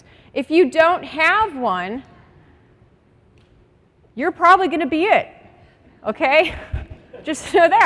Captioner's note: laughter